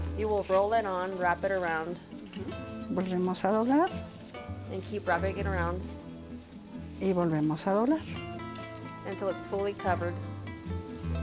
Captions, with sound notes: -You will roll it on, wrap it around. -[ Continues speaking Spanish ] -And keep wrapping it around... until it's fully covered.